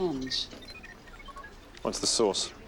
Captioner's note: monitor trilling